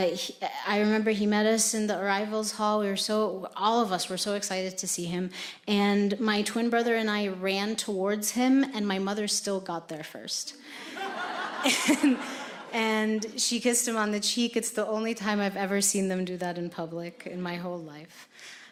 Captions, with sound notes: I remember he met us in the arrivals hall. All of us were so excited to see him. And my twin brother and I ran towards him, and my mother still got there first. (audience laughing) And she kissed him on the cheek. It's the only time I've ever seen them do that in public in my whole life.